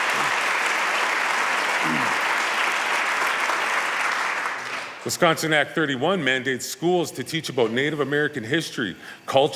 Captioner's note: applause